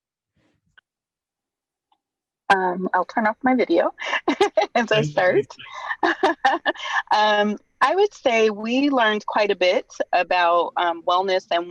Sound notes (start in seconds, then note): 4.1 chuckles